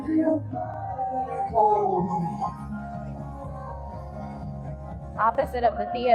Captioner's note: chattering